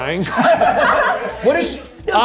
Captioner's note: laugh